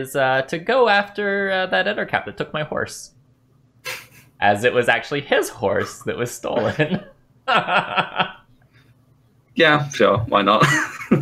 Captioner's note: laughter